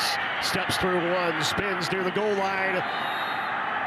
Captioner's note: fans cheer; referee blows whistle